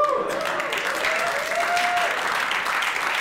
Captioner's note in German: Applaus